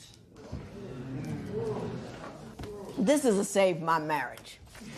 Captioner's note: spectators murmur